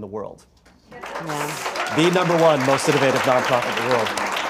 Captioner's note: applause